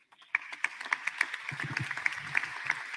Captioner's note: applause